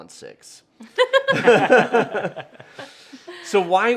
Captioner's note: laughing